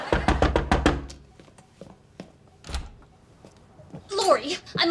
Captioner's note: laughs; door knock